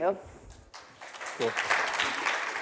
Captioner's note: audience clapping